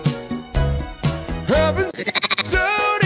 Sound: goat bleeps

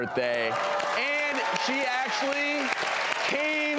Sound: applause

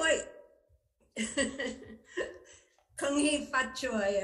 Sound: chuckles

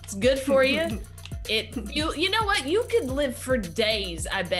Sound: laugh

